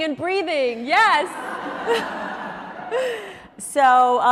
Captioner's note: audience laughs